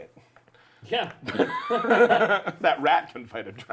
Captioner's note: laughter